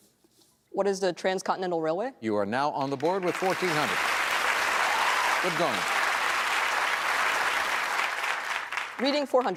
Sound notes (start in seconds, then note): 2.8 applause